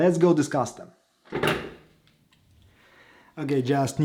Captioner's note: clacking sound